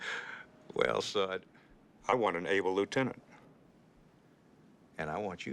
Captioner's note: chuckles